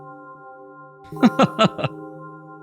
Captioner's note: laughs